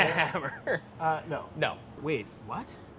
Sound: laughing

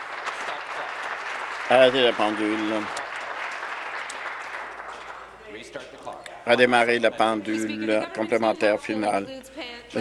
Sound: applause

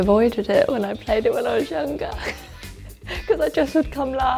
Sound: laughs

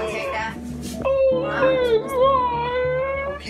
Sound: groaning

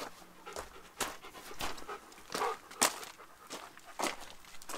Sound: footsteps; dog Panting

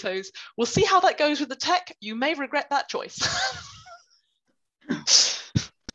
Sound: laughter

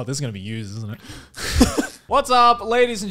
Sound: laughs

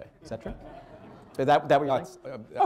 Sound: laughter

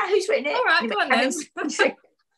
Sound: laughs

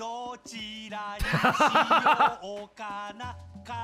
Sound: laughs

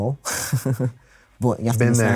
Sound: chuckles

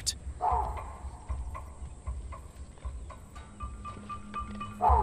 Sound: baboons barking

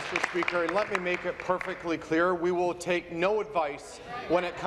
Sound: applause

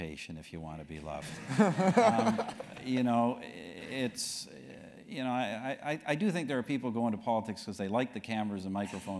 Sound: laugh

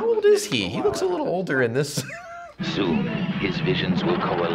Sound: voice-over

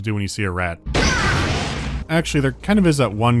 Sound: bam

